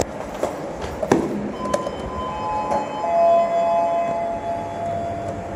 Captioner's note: chime